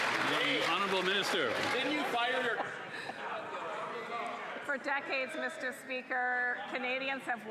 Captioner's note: applause